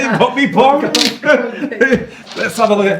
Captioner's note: both chuckling